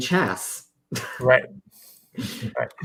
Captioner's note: laughs